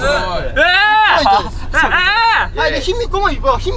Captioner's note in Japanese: 奇声